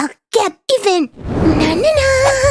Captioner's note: quietly